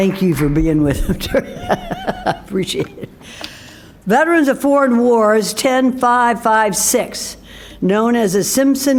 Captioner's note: applause